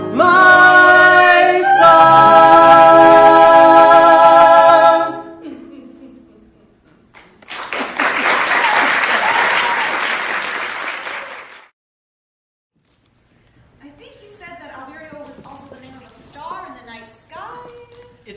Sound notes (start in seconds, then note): 7.2 applause